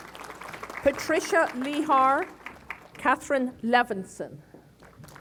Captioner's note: applause; applause